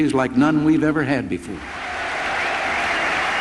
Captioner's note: applause